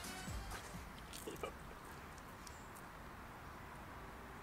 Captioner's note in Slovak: zvuky chrumkania